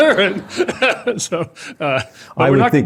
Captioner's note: laughter